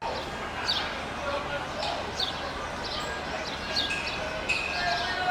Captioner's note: birds chirping and distant voices